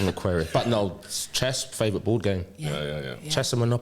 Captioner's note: laughter